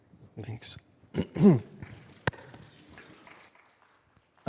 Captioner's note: clears throat